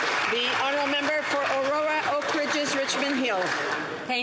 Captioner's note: some Applause